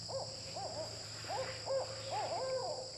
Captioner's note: owl noises